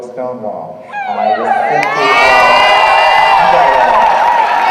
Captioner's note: audience cheering